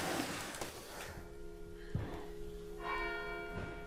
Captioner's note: bell ringing